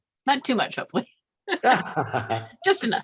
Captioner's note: both laugh